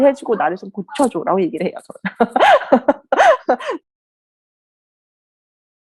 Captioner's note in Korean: 웃음